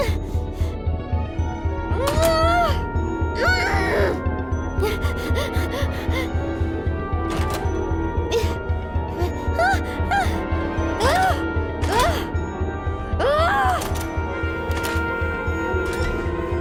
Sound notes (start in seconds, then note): 3.4 groans, screams through teeth; 13.0 shouts